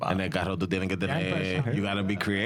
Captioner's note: speaking In Spanish